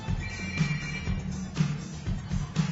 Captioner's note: phone Ringing